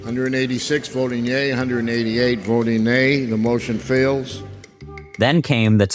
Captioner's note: House voting audio - gavel hit, does not pass